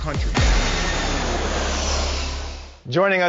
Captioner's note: plane engine roars